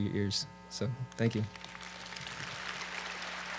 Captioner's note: applause